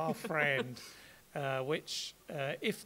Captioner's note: laughs